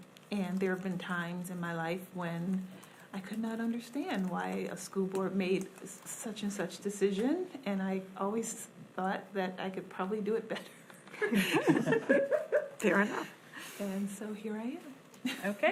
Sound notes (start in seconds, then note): 11.1 board laughs; 11.1 laughs